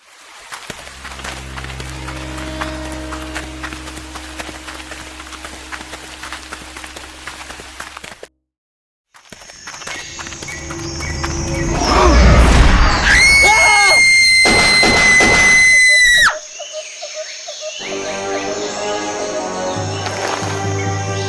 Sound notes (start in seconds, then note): 0.4 falling water, footsteps; 9.3 footsteps; 11.5 crocodile roars, snaps jaws; 11.6 scream; 14.4 gunshots; 16.5 wildlife sounds